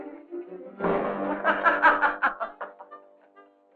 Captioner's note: laughing